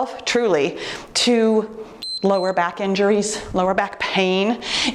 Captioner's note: timer beeps